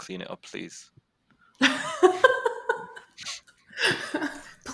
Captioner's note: laughter